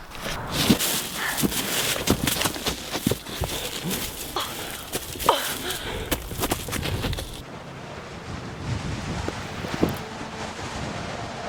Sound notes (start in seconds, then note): 7.9 wind howling